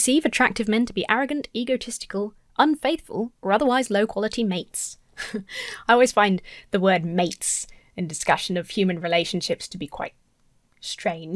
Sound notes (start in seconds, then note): 5.2 chuckles